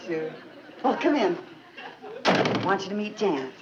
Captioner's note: door slamming